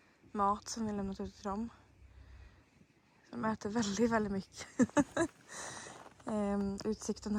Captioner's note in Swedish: skratt